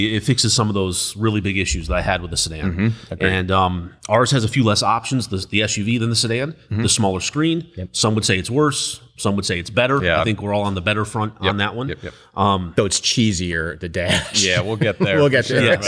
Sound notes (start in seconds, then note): 14.0 laughs